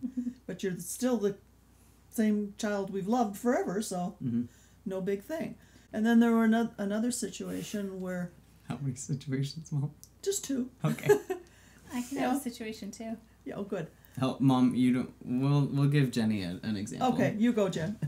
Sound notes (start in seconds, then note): 9.8 laughs; 11.4 laughs